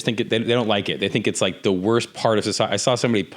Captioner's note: none